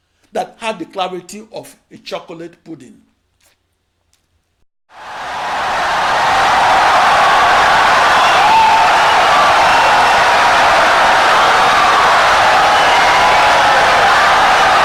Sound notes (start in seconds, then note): 2.6 wild applause and cheering for 17 seconds